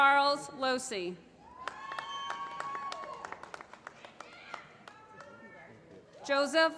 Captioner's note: applause